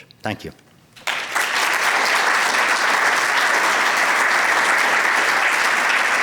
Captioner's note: applause